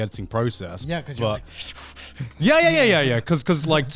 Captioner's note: breathes rapidly